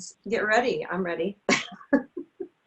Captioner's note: laughs